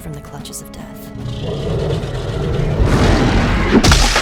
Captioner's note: roar, crunch